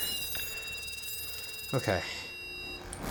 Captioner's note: continuous beeping